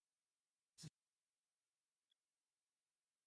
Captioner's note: silence; silence